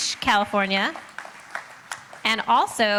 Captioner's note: applauding